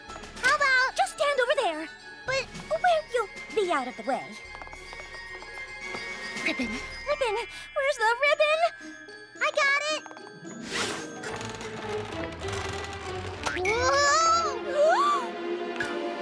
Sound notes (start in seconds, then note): 10.6 creaking; 14.2 gasps